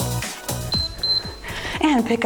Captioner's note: timer beeps